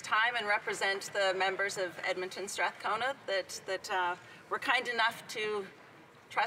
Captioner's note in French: voix de l'interprète